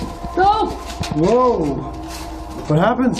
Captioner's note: shouts